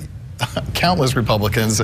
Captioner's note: laughter